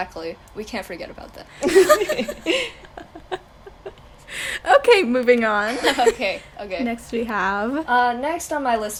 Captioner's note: laughter